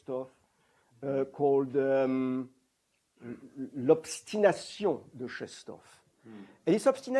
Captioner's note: french